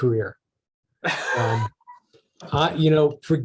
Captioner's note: laughing